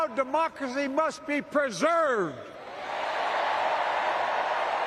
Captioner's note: cheering